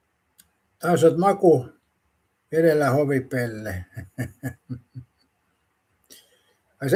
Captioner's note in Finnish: naurua